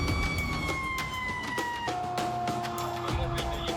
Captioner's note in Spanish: Sirenas